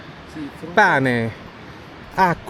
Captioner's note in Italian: none